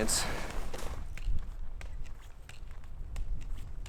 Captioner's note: footsteps in snow